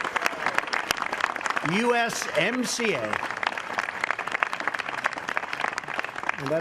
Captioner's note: applause